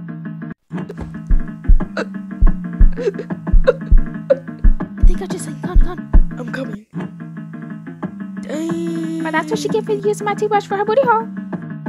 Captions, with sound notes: Nani frightened* i think I have just seen Conney (Nani stutters) I'm coming danggg that what she gets for using my toothbrush for her booty hole